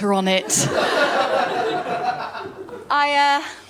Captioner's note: laughter